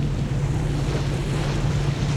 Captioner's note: humming